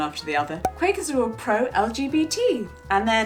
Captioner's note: air popping